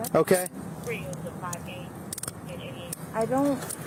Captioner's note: radio chatter